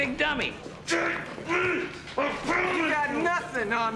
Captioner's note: Eldon grunts